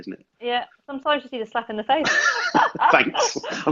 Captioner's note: laughs